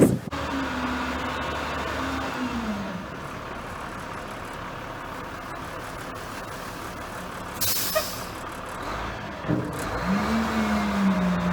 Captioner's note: truck noises